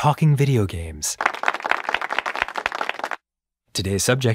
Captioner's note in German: Publikum applaudiert